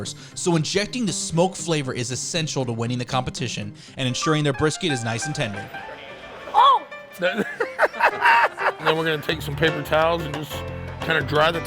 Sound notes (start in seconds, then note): 7.2 laughs